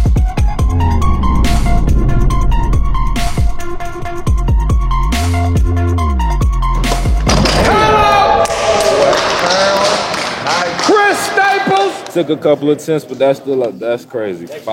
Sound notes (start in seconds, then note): 6.8 dunk sound; 8.7 claps